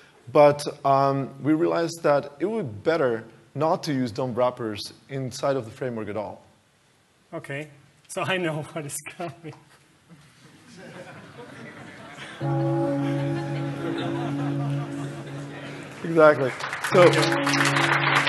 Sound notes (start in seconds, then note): 12.4 bell ringing